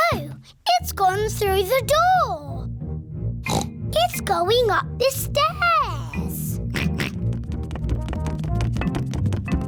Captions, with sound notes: Oh! It's gone through the door! (SNORTS) It's going up the stairs! (GEORGE OINKS)